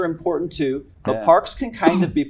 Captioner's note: cough